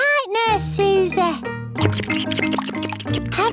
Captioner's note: slurping